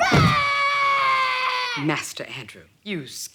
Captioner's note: Drew roaring